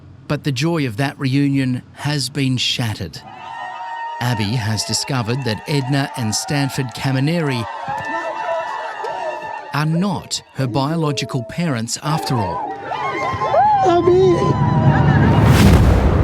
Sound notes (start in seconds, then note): 3.4 crowd cheering; 13.0 family sobbing